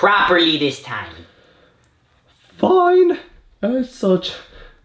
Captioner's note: sighs